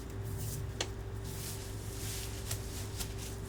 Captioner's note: wig rustling